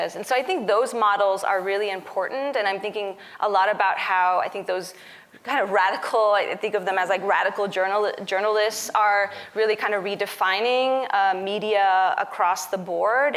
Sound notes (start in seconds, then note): none